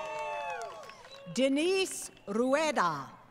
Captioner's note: crowd Cheering & Applause